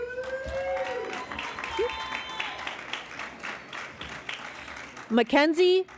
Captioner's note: cheering and Applause